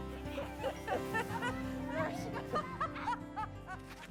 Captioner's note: both laughing